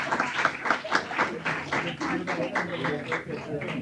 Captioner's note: applause